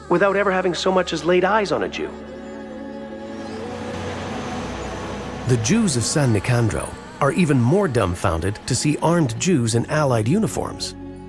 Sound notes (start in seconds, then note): 3.2 vehicle droning